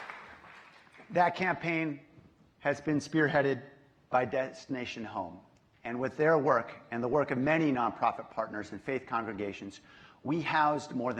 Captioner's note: applause